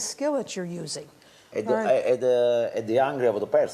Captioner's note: speaking Italian